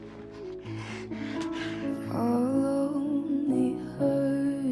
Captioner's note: hand slapping; woman sniffling